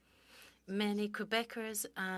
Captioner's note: speaking French